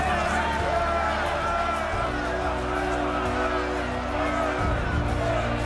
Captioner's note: shouting